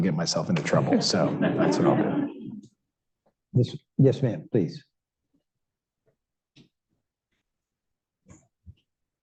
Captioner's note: laughter